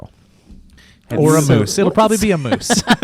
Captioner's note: laughs